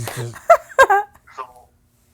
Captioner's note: laughs